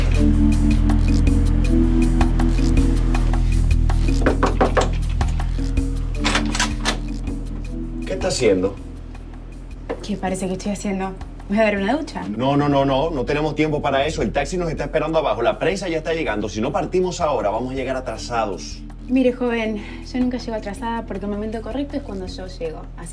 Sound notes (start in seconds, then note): 4.0 door Knocking; 6.0 door Opening; 6.1 door Unlocking